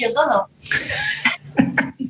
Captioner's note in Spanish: risas